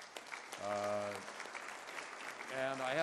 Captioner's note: applause